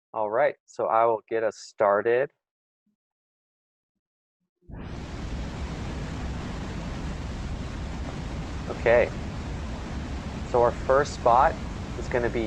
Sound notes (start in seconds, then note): 4.7 water sound effects start